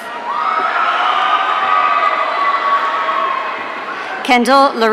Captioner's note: audience cheering